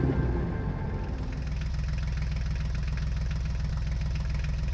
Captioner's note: engine rattling